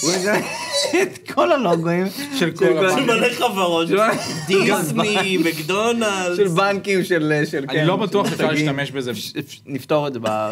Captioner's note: snickers